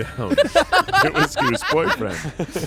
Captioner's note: everyone laughs